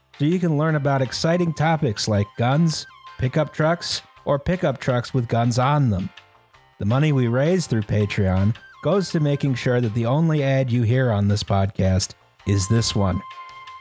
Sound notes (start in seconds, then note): none